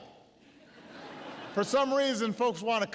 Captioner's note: laughter